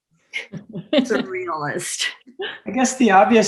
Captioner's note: laughs